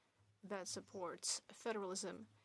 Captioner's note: speaking French